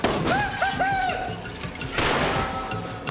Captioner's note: laughs